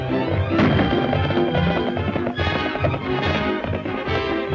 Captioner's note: guns firing